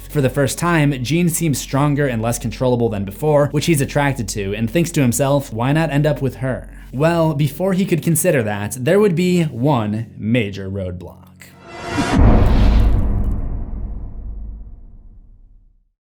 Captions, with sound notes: For the first time, Jean seems stronger and less controllable than before, which he's attracted to and thinks to himself, why not end up with her? Well, before he could consider that, there would be one major roadblock. (Impact)